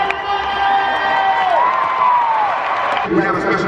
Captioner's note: audience cheering